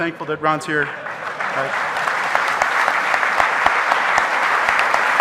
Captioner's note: audience applauding